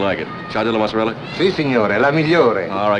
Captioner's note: Italian